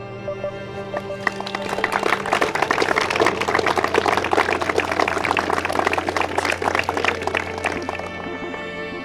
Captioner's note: audience claps